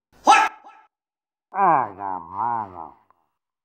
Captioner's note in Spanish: Sonidos de Pyro decepcionado